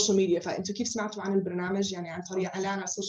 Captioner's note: non-english speech